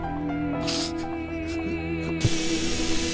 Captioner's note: weeping